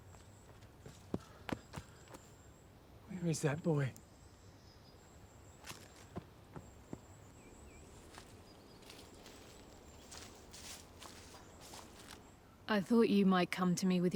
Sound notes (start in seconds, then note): 0.3 footsteps thudding; 5.9 footsteps thudding; 8.7 grass crunching